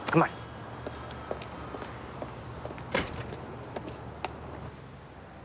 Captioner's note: footstep